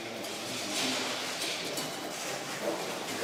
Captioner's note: rustling, clattering, quiet conversations